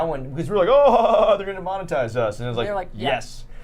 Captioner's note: laughs